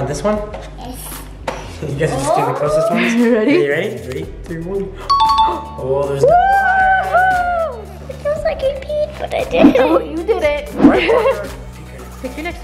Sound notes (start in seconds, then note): 5.1 digital dinging; 10.8 laughing